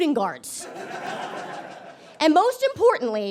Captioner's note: audience laughs